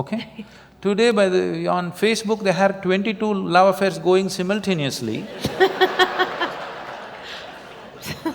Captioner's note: laughter